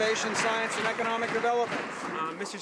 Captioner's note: some Applause